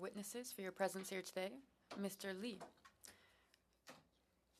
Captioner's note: speaking French